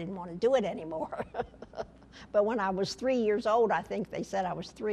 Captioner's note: laughter